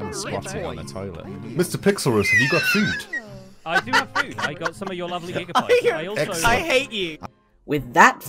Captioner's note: laughs